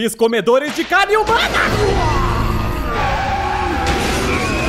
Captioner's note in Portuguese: Zumbi grita; sons de caos e destruição